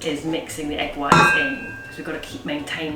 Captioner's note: bowl clangs